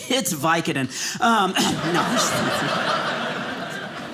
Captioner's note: audience laughing